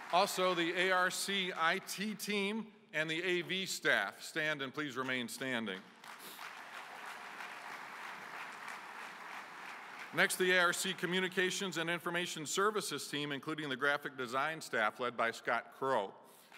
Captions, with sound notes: Also, the ARC IT team and the A/V staff, stand and please remain standing [ Applause ] Next, the ARC communications and information services team, including the graphic design staff led by Scott Crow,